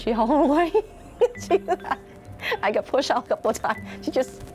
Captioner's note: laughs